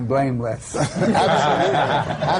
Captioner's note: laughter